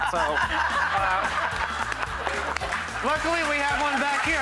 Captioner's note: audience laughing